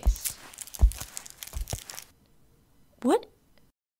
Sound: crunching noise underfoot

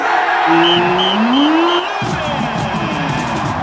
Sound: whistling

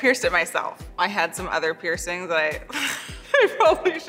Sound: chuckles

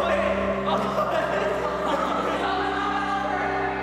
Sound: laughter; playful laughing

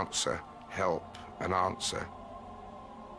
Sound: wind howling; soft ethereal music

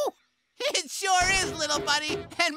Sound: none

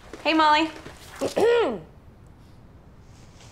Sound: MOLLY clearing throat

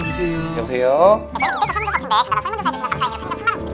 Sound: hahaha

